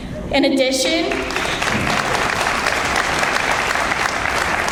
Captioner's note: audience applauds